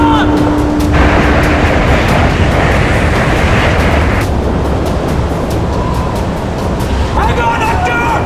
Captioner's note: wind